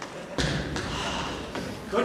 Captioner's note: sighs